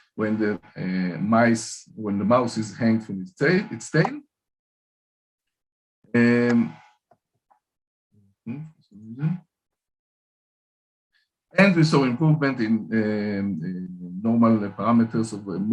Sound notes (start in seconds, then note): 8.4 mumbling to self